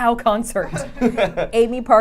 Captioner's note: group laughing